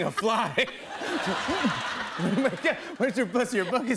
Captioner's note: laughter